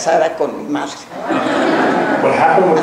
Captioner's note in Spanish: laughing